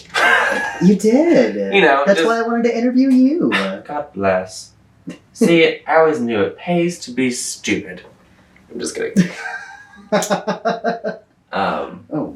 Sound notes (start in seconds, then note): 0.0 laughs; 9.2 laughter